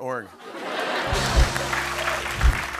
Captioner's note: laughter